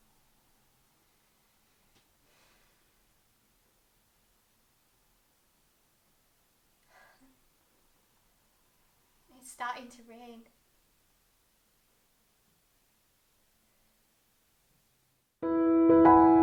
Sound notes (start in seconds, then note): 6.8 sigh